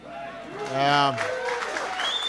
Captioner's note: applause